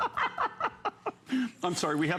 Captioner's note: laughter